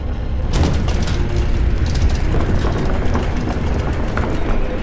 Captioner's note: banging and rattling